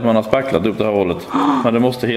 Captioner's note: panic sound